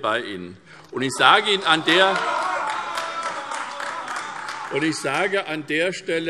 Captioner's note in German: Demonstrativer Beifall und Lachen AfD